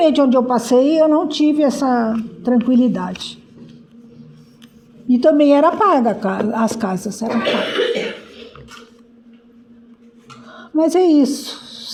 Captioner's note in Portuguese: limpando a garganta